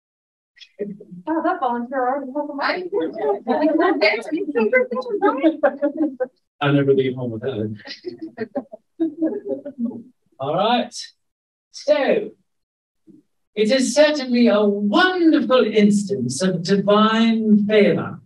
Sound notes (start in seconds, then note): 2.9 audience chuckling; 9.0 scattered chuckling